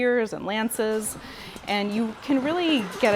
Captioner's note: horses gallop & whinny, swords clash